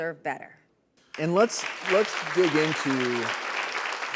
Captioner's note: audience clapping